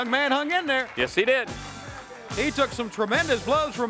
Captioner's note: crowd cheering; bell rings; crowd chatter